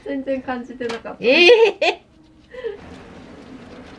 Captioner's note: laughs; laughter